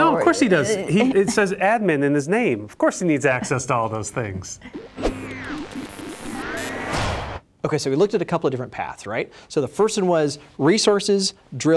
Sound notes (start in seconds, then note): 4.2 radio tuning